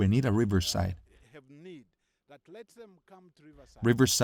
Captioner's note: Hablando idioma extranjero